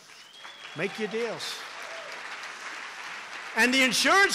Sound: applause

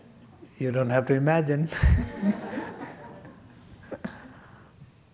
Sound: laughter

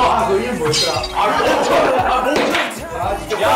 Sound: laughs

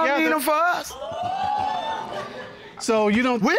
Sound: audience gasps

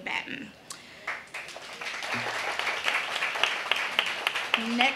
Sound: audience applauding

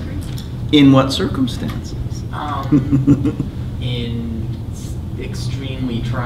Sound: chuckles

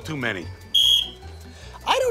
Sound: whistle blows

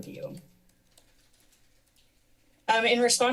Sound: pause

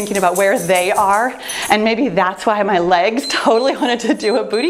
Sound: timer beeps

